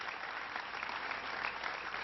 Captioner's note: applause